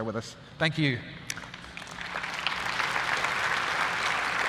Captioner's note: applause